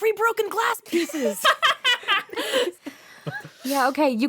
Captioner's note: laughter